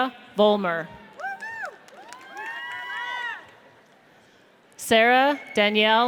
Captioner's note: audience cheers